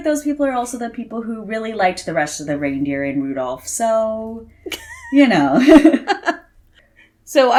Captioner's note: laughs